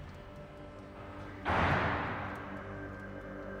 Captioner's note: clang in distance